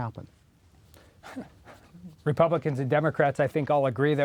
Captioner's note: laughs